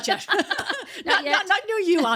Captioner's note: laughing